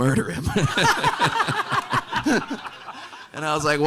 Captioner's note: everyone laughing